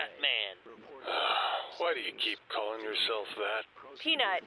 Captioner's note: sighs